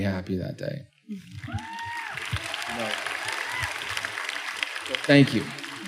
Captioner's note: applause